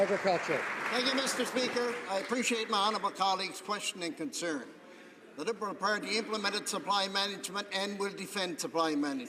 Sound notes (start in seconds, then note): 0.0 some Applause